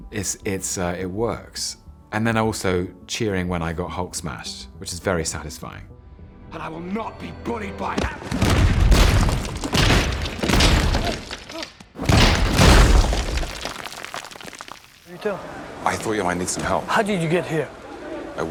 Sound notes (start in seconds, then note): 8.2 smashing